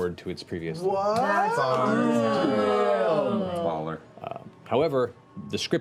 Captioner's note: exclamations of surprise